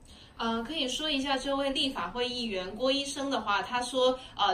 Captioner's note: Mandarin